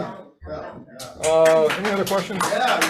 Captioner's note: audience applauds